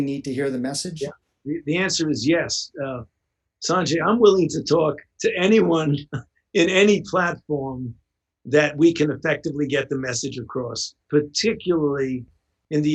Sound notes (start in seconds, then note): 5.3 chuckles